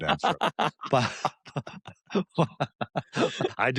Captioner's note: laughter